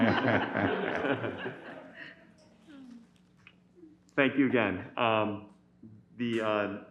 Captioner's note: laughter